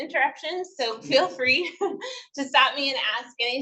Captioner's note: chuckles